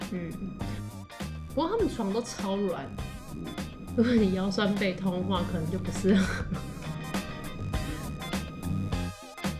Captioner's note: laughs